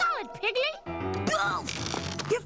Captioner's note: grunts